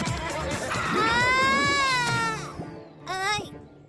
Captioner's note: shrieking